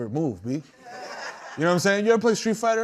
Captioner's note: laughter